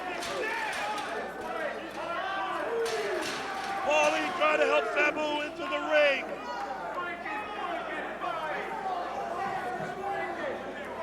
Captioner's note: crowd cheering